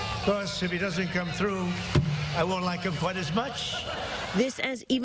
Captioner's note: laughter